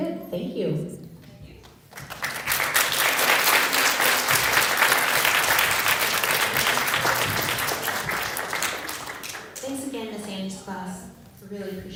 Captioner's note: applause